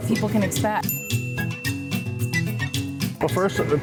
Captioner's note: caption dings